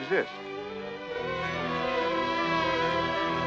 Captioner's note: buzzing